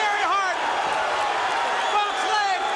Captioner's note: crowd cheering